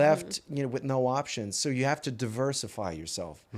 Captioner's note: in french